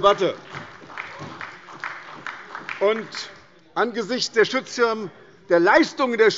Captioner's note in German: Beifall bei Abgeordneten der SPD